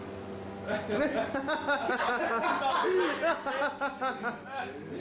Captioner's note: soldiers laughing